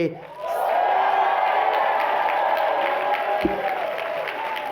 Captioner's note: cheering